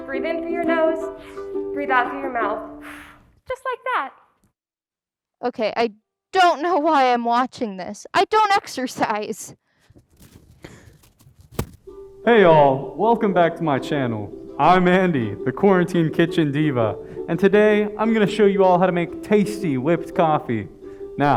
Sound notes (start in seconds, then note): 2.8 exhales loudly